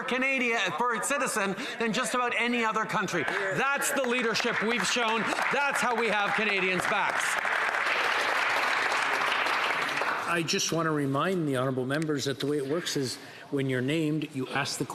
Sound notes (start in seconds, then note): 11.3 some Applause